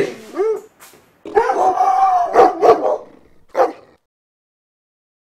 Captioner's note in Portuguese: Sons de latido no fundo